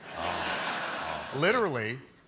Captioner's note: laughter